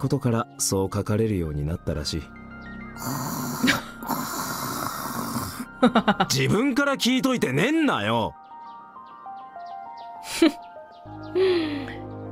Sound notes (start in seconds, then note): 3.0 scoffs; 5.7 chuckles